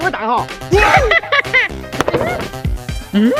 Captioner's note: evil laugh